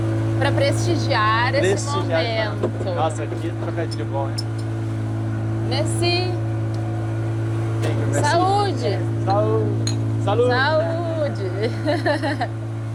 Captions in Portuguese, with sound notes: para prestigiar esse momento. Prestigiar. Nossa, aqui trocadil de bom, hein, Messi. M. Saúde. Saúde, saúde, saúde. [risadas]